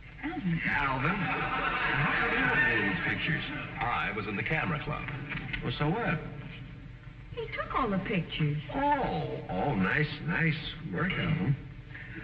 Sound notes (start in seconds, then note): 0.9 audience laughing